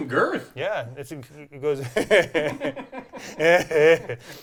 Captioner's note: laughs